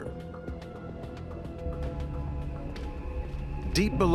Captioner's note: footsteps echoing